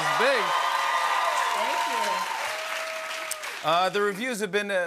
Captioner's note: cheers and applause